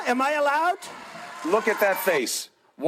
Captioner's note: crowd cheering